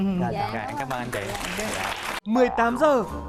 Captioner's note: giggles; claps